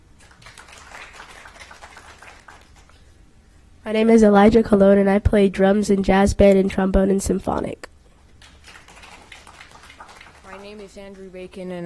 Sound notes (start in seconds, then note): 2.2 applause